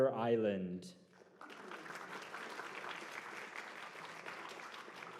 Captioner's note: applause